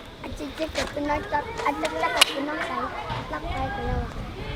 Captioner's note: kids chatter